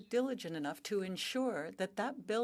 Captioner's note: speaking French